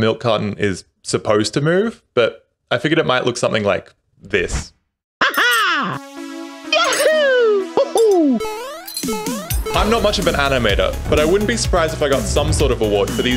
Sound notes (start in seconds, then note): 6.7 cough